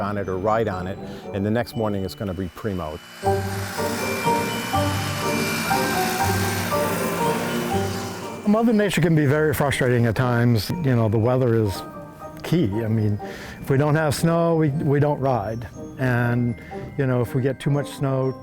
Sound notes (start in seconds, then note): 3.2 gentle music; 3.2 engine rumbling